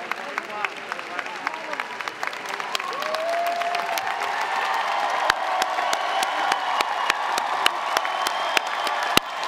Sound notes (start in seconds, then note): 2.5 audience clapping hands